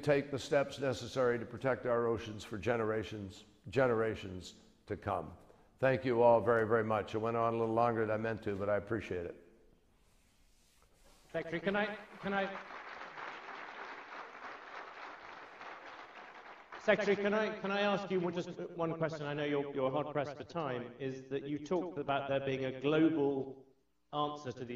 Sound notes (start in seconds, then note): 11.9 applause